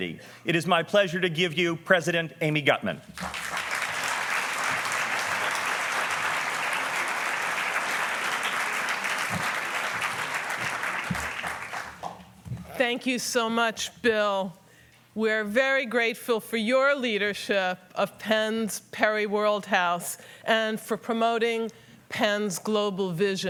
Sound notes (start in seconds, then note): 3.1 applause